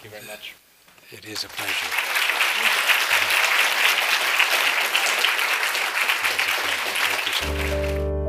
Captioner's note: applause